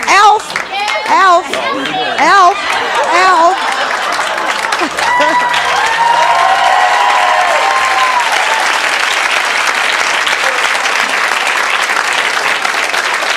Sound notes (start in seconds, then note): 5.6 audience cheering; 7.5 audience clapping